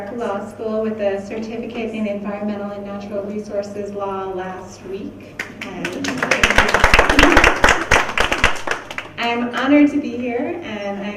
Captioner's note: clapping